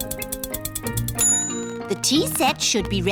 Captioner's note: bell dings